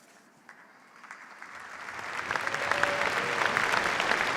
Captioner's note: applause